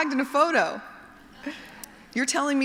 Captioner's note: laughter